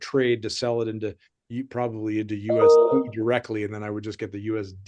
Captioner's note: chime ringing